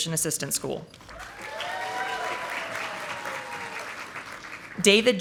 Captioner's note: audience applauding